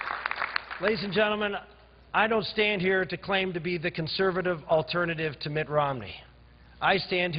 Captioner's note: cheers and applause